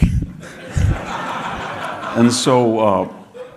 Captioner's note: audience laughing